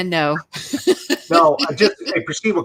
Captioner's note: laughs